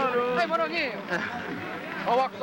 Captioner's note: laughing